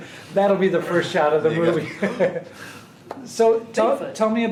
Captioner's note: laughing; laughing; gasping